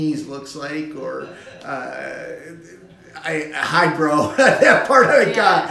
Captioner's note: laughing